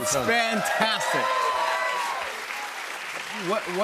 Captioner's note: cheers and applause